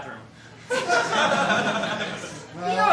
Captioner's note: laughter